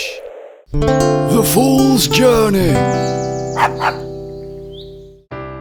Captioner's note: dog barks